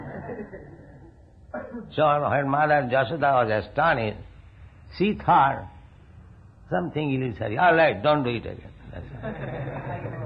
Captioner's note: laughter